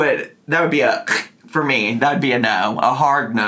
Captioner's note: imitates deadly gasp